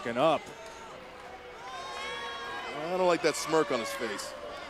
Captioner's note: applause